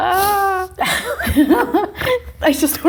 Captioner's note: both laughing